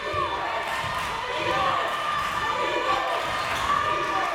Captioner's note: crowd members chanting